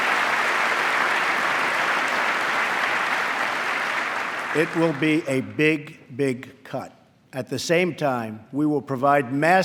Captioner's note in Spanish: aplauso